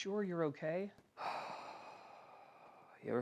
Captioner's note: exhales